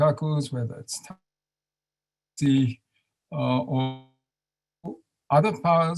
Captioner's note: audio drops